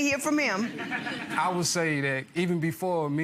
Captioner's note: audience laughter